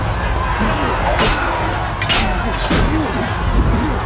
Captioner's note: both grunting